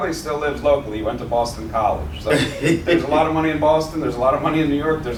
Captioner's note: laughter